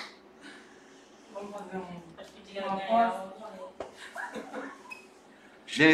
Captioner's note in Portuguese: risos